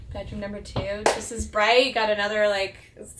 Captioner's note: claps